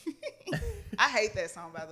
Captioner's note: laughs